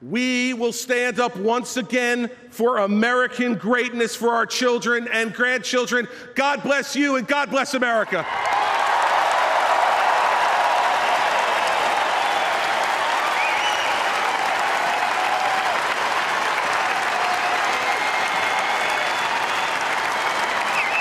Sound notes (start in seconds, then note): 14.1 applause